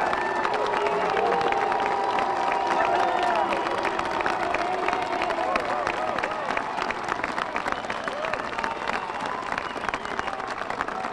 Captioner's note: applause